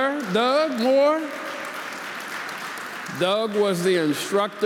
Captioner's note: audience applauding